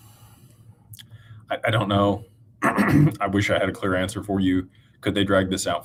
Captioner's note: clears throat